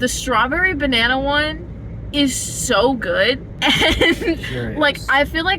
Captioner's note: laughing